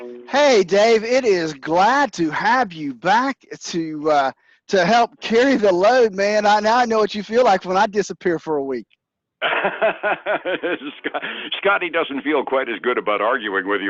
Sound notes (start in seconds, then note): 9.4 laughing